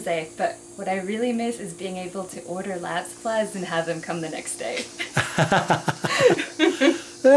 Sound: laughter

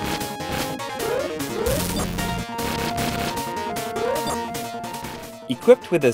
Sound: game audio

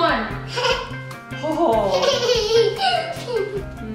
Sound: giggles

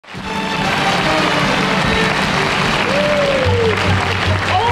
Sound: applauding

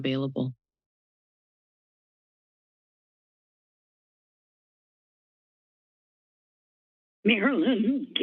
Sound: silence

